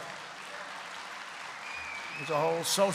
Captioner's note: applause